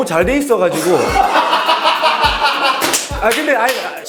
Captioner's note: ha ha ha ha ha